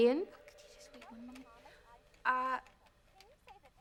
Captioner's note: whispering